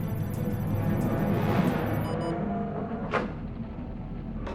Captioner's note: alarm